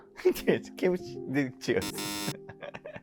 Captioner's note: laughing